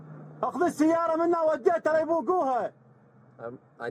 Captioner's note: speaking Arabic